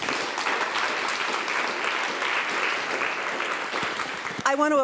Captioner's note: applause